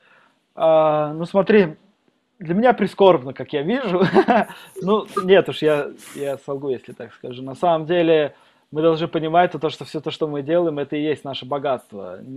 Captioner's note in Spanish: Se ríe